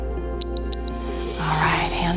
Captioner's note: timer beeps